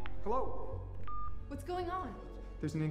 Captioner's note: beep